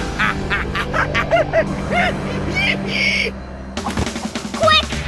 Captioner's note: monkey noises